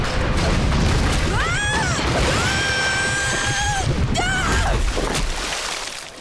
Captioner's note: screaming